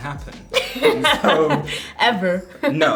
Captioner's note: laughing; Amandla laughing